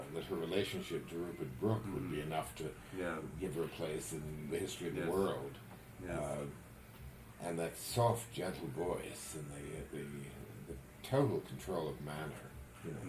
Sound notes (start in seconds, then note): none